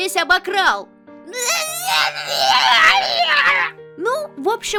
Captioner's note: whining